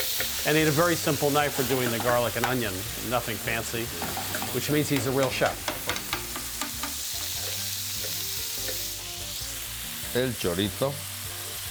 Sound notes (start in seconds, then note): 5.9 sizzling continues